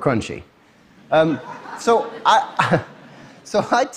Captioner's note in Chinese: Laughter; 笑聲